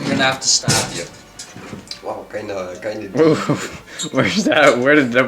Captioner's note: mumbles